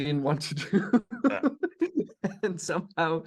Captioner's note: laughs